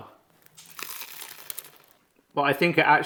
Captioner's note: munching